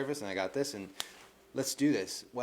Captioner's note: snaps